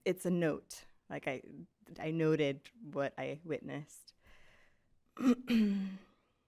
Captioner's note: clears throat